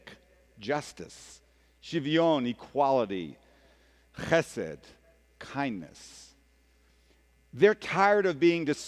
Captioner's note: speaking hebrew